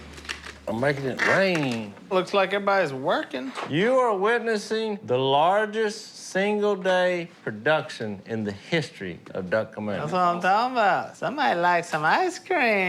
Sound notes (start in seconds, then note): none